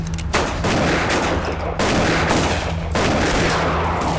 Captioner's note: gunfire